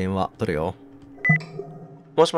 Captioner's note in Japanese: 通話ボタン音：ピッ